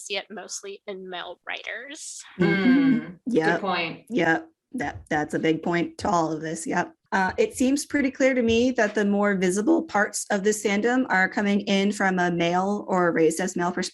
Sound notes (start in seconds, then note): 2.1 agreement noises